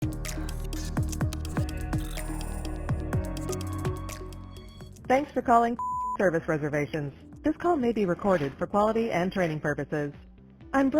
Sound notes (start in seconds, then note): 0.0 upbeat music; 5.7 beep